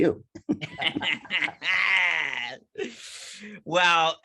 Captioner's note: laughing